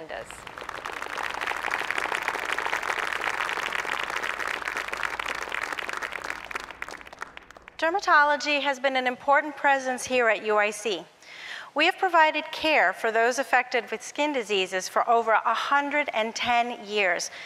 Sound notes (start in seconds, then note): 0.3 applause